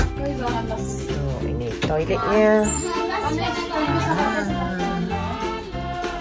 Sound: speaking German; background music

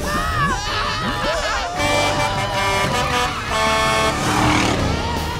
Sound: horn honking

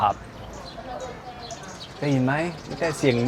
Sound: bird sound

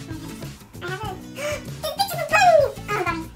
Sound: gasp

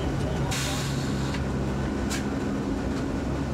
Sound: air hissing

